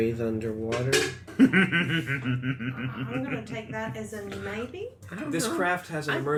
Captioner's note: laughs